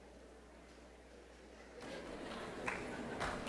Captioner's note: laughing